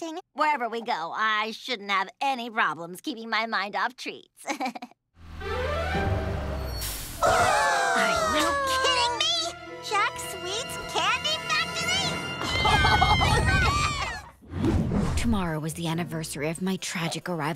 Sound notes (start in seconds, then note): 4.4 chuckles; 7.0 all gasping; 12.3 all shouting